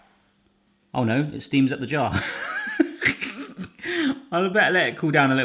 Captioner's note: laughs